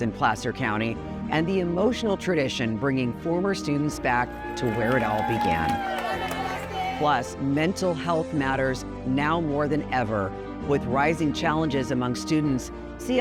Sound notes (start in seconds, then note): 4.1 people cheering